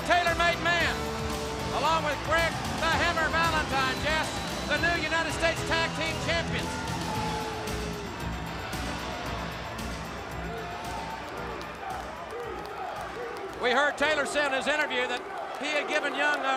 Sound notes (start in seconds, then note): 8.0 crowd cheering